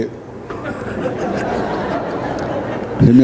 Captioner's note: crowd Laughing